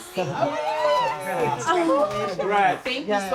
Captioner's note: friends exclaiming